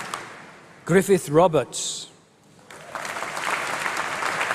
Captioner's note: applause